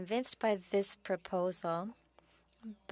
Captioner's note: speaking French